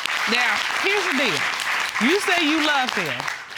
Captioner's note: audience applauding